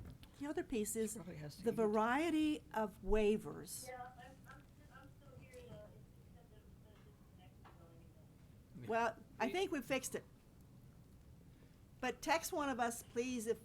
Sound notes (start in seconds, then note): 5.6 speaking faintly